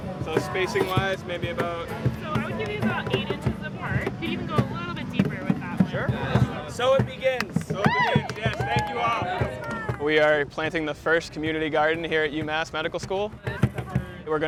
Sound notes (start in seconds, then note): 7.6 cheering